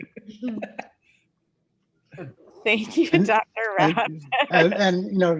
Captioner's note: laughs